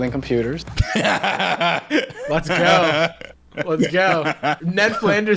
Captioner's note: laughing